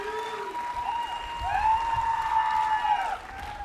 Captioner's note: applause